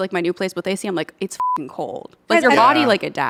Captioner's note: beep